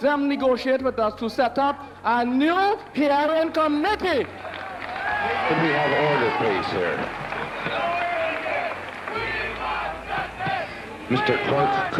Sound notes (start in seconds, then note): 4.5 cheering and applause